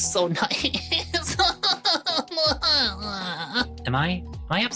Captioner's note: crying